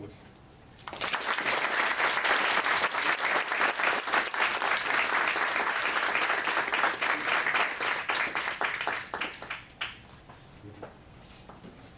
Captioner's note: audience clapping